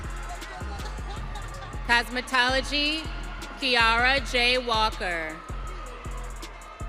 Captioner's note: audience cheering